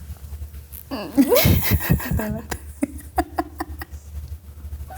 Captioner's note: laughing